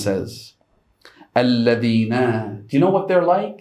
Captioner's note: Arabic